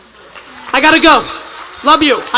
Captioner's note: attendees applauding